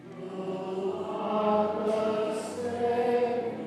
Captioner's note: chanting